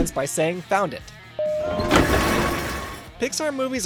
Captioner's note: metal scraping noise